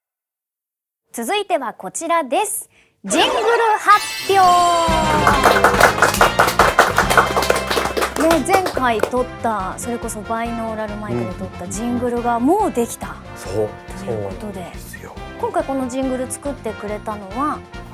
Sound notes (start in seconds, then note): 4.8 applause